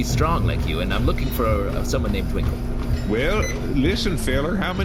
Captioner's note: turning off the treadmill